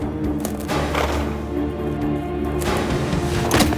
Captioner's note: suspenseful music continues; horse huffs; dramatic music; Hanee thuds